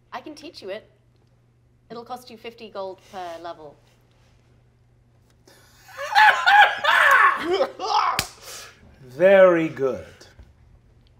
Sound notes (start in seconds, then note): 5.9 shriek-laughing; 7.5 laughing